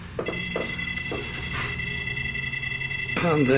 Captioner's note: beeping